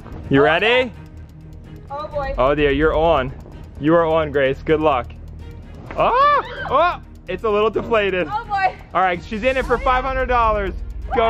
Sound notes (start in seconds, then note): 6.0 screaming